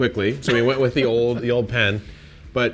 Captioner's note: laughs